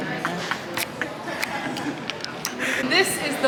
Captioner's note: laughing